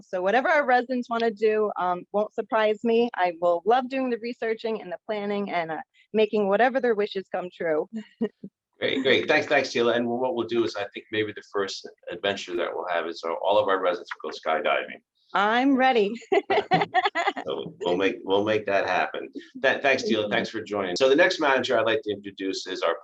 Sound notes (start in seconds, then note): 16.2 laughs